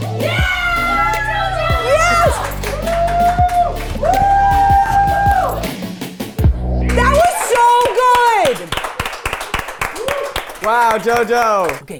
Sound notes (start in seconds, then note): 1.2 light music; 3.1 crew cheering; 3.1 light music; 6.8 everyone clapping